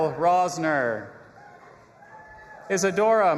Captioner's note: audience applauding and cheering